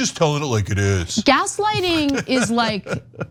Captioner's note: laugh